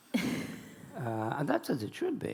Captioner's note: laughing